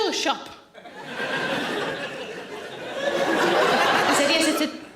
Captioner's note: audience laughing